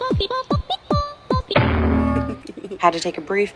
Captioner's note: bonk